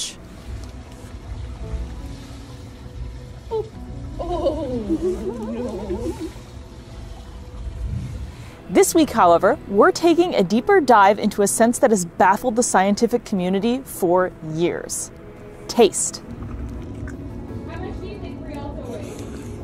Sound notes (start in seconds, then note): 0.3 background music; 0.3 water trickling noise; 7.0 background music; 7.0 water trickling noise; 16.4 background music